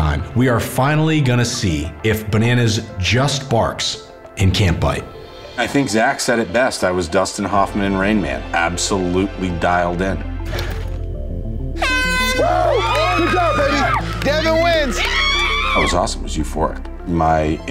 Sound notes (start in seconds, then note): 11.7 horn blows; 11.8 crowd cheering